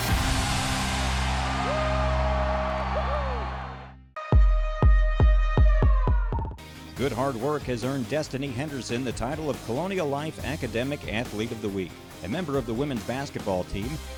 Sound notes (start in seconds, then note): 0.0 upbeat music; 2.3 cheers; 4.0 upbeat music